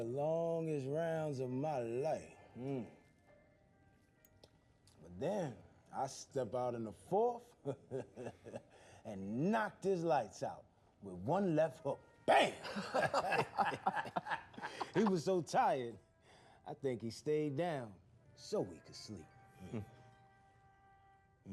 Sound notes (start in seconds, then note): 7.6 chuckles; 12.3 laughing